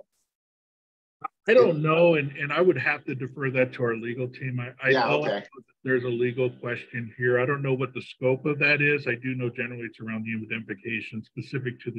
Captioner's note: feedback